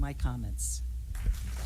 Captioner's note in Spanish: appaluse